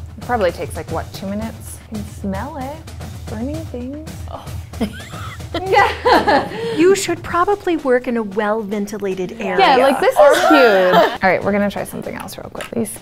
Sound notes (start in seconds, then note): 4.8 laugh